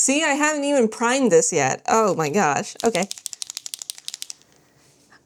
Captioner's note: marker shakes